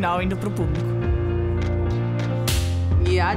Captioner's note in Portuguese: Som da claquete